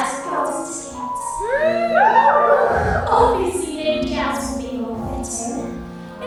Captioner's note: audience cheers